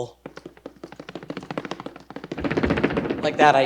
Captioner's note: tapping rapidly